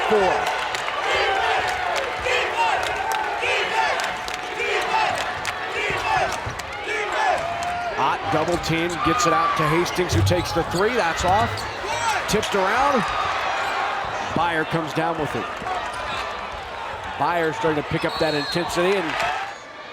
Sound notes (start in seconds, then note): 2.1 crowd